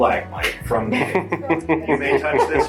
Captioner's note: chuckles